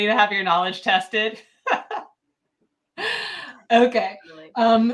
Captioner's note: laughs